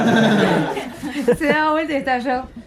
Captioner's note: laughts